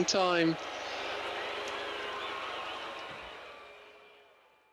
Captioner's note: crowd booing